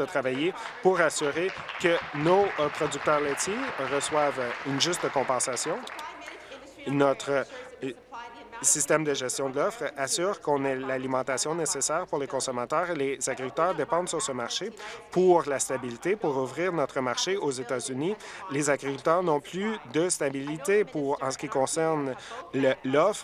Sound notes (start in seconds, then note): 6.0 applause